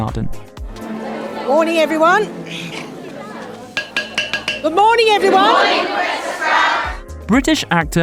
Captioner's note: taps wand